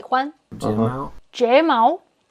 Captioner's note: speaking in Mandarin